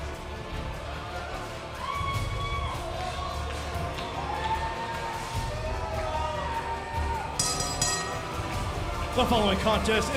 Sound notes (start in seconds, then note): 0.7 crowd cheering; 7.4 bell ringing